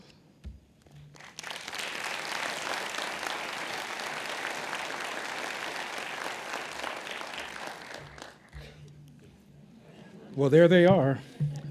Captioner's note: clapping